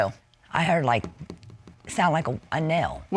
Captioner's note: taps